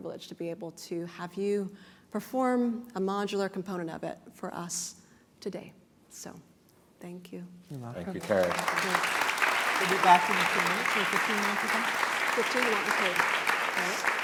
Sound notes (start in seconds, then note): 8.0 applause